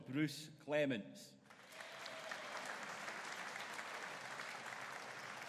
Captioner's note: audience applauding